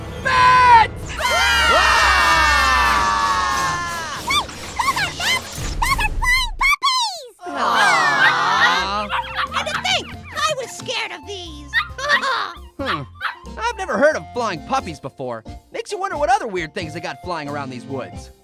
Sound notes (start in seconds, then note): 0.0 horror music; 1.1 all screaming; 7.4 ALL AWW-ing; 7.8 puppies bark